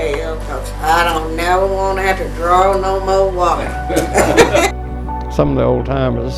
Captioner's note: collective laughs